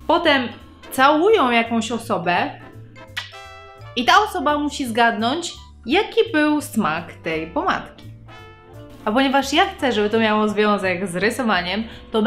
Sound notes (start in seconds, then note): 3.2 smack